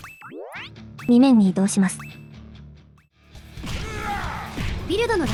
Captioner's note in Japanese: うめき声